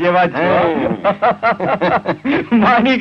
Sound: laughs

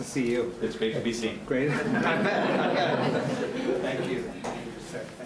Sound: audience laughs

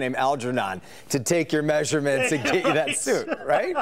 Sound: laughter

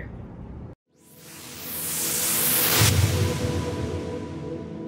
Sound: whooshing

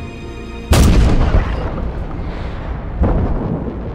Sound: gunshot

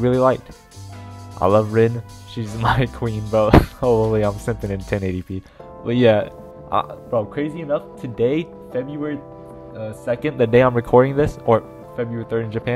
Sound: chuckle

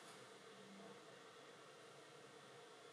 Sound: none

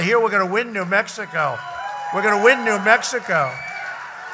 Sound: applause

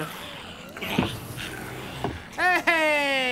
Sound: window whirring

